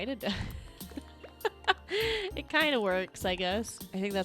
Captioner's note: laughs